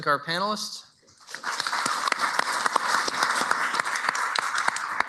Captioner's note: applause